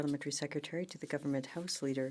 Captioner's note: speaking in French